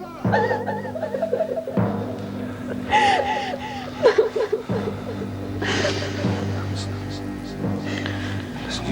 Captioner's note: crying